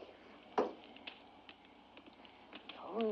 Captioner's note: cup sets down